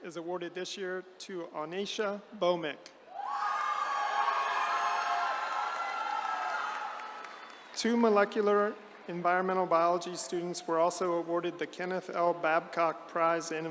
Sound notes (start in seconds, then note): 3.1 attendees cheering